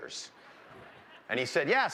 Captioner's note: laughter